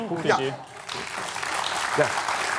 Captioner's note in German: Applaus